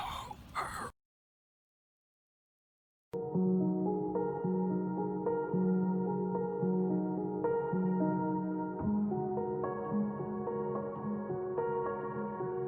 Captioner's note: slightly less hushed gasping but nonetheless very much excite